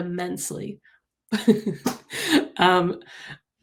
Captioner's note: chuckles